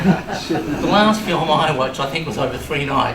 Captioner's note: laughter